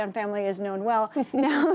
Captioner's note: laughter